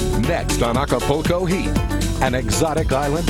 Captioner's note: voiceover